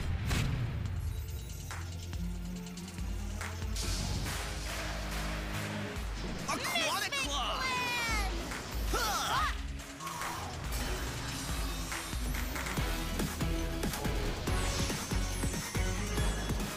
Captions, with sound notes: [tense music] -Aquatic Clan! -Misfit Clan! [grunting]